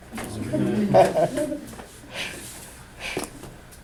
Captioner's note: chuckling